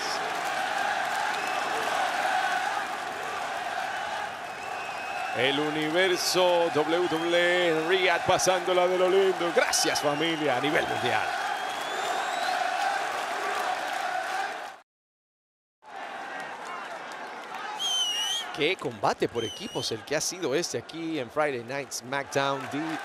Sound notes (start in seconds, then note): 0.7 applause; 12.1 applause